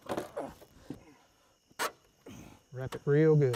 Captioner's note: grunting